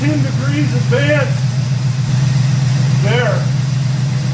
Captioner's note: engine idling